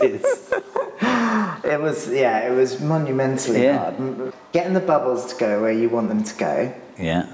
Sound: laughs

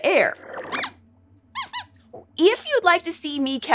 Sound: squeaks squeaks

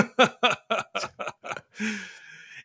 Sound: laughing

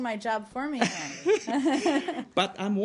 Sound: laughter

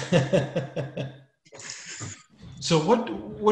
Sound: laughs

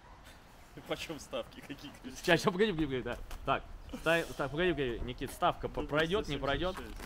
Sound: men speaking in foreign language

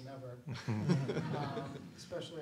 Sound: laughs

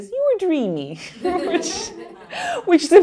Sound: laughing

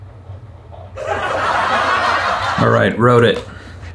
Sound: audience laughing

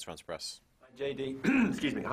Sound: clears throat

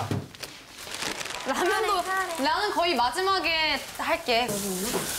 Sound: frying

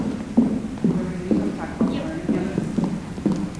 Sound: foot steps approaching

